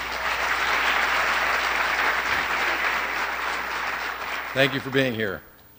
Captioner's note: applause